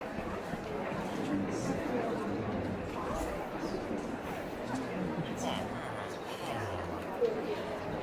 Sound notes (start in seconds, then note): 0.0 crowd chattering; 5.3 villager noises